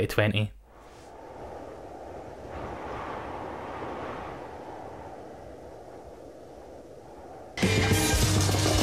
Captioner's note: soft breeze